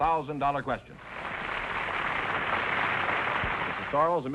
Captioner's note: audience applause